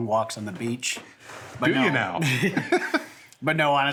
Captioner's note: laughs